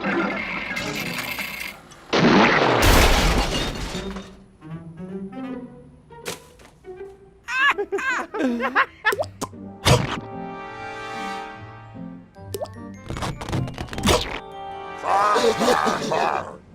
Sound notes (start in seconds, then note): 7.4 laughing; 15.3 deeper laughing